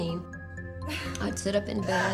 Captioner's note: Becky gasping